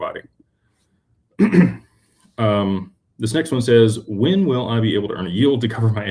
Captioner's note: clears throat